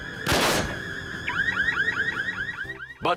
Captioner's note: alarm beeps